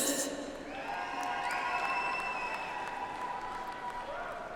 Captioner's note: audience applauds